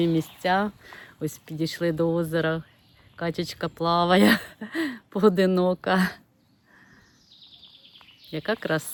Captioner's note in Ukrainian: сміх